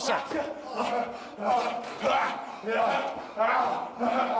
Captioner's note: The Rock panting